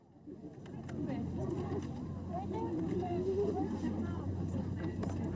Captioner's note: children chatter